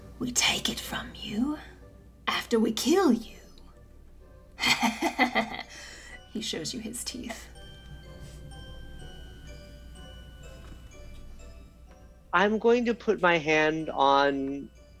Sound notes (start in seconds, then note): 4.5 chortles